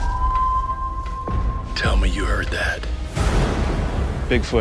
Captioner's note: howling; thunder rumbling